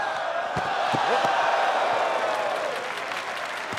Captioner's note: crowd exclaims; crowd claps and cheers